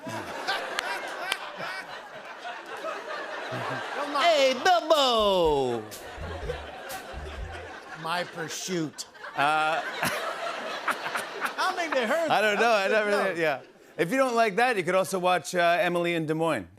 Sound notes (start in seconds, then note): 0.0 laughter; 5.7 laughter; 9.9 laughter